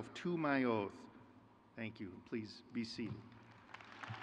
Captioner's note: crowd cheers